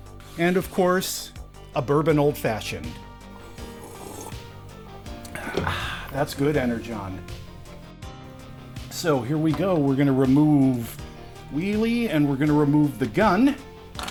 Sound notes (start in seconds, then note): 3.3 sipping sounds; 5.5 clunk